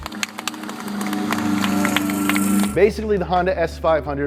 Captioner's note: car engine